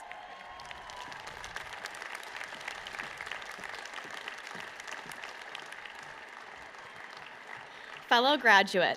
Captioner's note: applause